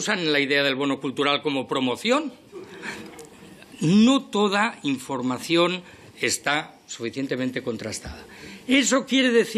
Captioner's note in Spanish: Risas